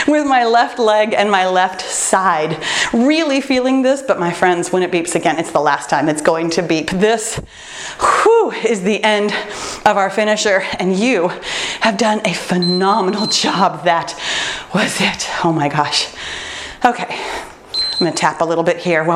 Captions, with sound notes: with my left leg and my left side. Really feeling this, but, my friends, when it beeps again, it's the last time it's going to beep. This, woo, is the end of our finisher, and you have done a phenomenal job. (timer beeps) That was it, oh my gosh. Okay, I'm gonna tap a little bit here